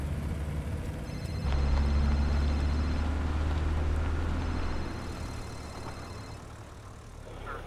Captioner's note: phone Ringing